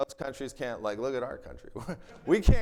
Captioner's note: chuckles